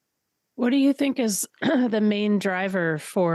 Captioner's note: clears throat